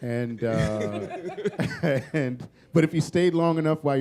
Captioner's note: laughter